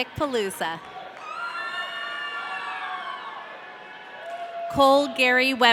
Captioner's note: audience cheering